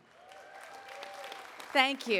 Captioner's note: attendees cheering and applauding